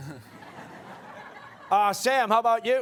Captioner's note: laughter